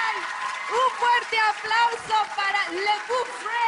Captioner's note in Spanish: Aplausos